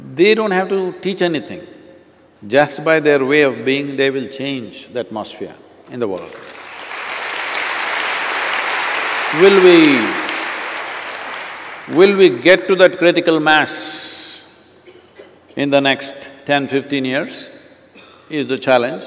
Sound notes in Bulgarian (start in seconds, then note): 10.3 аплодисменти